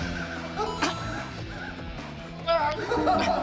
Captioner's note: struggling